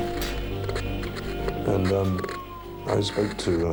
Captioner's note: sirens wailing; car crashing; phone dialing; car alarm sounding